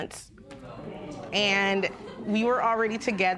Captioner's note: spectators murmur